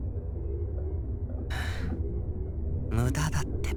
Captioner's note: weary sigh